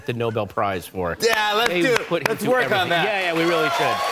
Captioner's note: cheers and applause